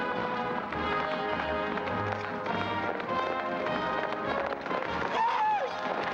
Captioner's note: hooves pounding; whooping excitedly